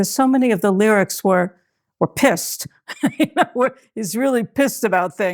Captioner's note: chuckles